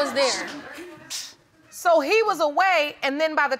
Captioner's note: audience chuckles